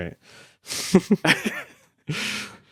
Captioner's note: people laughing